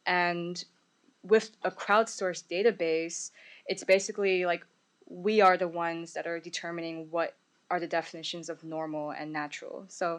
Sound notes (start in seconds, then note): none